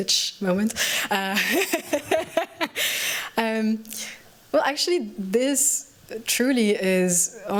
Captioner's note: laughs